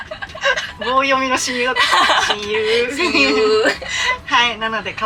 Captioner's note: laughs